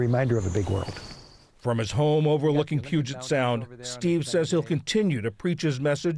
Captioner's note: voice-over